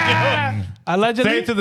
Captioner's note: laughing